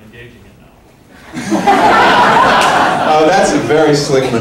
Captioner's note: laughter